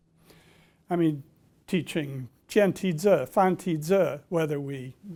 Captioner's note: speaking chinese